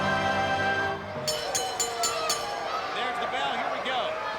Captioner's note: bell ringing